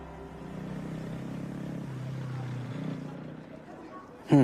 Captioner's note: engine rumbling